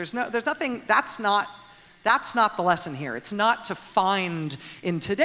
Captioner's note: none